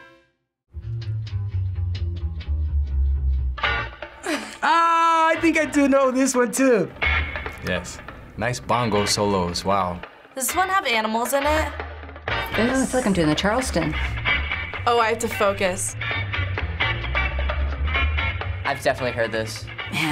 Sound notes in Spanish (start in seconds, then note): 0.7 música de jazz; 4.2 riendo